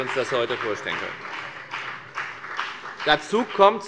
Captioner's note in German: Beifall bei der FDP und bei Abgeordneten der CDU